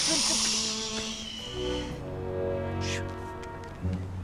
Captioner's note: Nicolas hushes